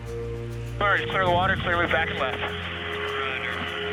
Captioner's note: radio chatter